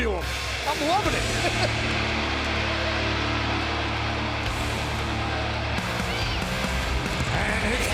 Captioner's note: laugh